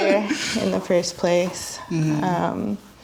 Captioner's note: laughs